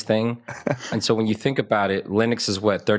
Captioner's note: laugh